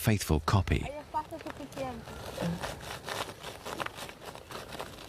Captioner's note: foreign spoken audio